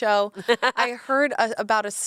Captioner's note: laughs